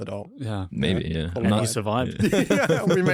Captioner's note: laughs